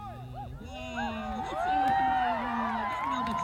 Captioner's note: cheers